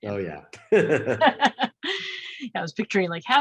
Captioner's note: both chuckle